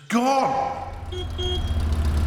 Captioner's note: horn honks